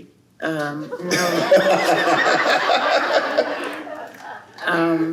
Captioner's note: laughter